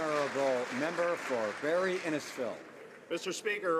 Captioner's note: some Applause